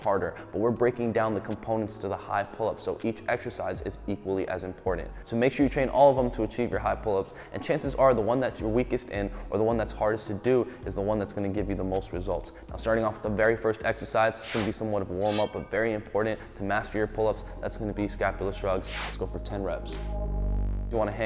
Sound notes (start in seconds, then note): 14.4 air whooshing; 15.2 blades clinking